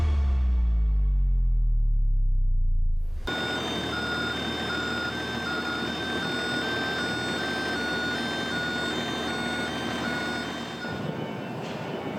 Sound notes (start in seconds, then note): 0.0 ambient music; 3.0 machine thrumming; 3.2 machine beeping